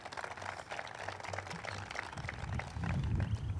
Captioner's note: group claps